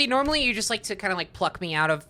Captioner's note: none